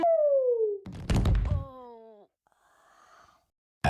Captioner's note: the sound of a body falling